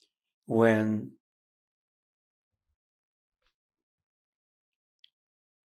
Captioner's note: pauses 6 seconds